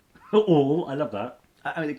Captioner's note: chuckles